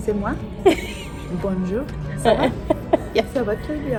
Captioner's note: speaks French; speaking in French; laughs; speaking in French